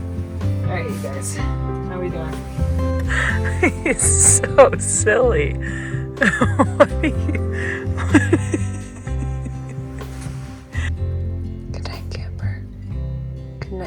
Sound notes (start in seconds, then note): 8.3 laughing